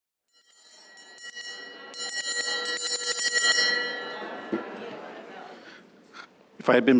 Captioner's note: bell ringing